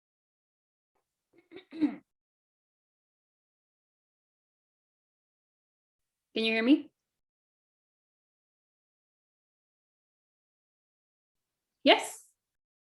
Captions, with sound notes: (little throat clearing) Can you hear me? Yes?